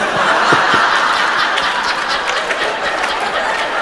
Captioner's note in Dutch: gelach